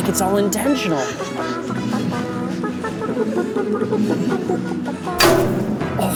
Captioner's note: judges laughing; accapella; breathing heavily